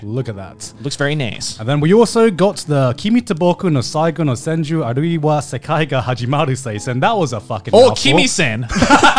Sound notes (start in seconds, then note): 4.2 speaking foreign language; 8.7 both chuckling